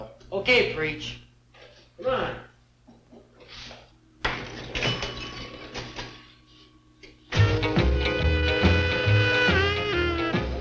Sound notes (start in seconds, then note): 4.3 ball banging; 7.4 upbeat music